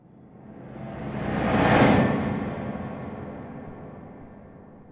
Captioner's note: memory image whooshes